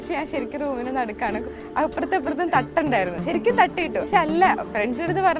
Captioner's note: speaking foreign language